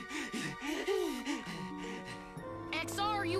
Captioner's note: panting